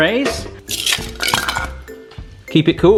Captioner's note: ice packs clanking